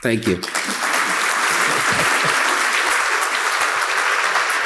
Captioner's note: crowd clapping